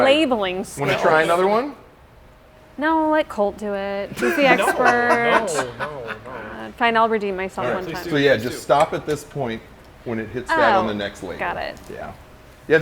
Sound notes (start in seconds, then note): 4.1 laughing